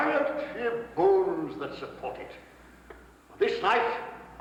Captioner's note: none